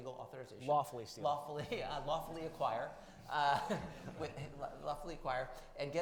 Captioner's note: chuckles